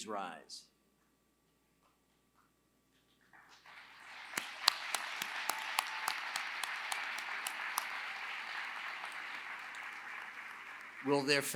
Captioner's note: applause